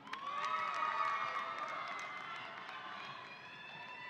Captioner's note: audience applauding